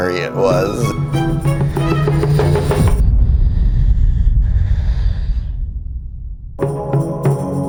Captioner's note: breathing heavily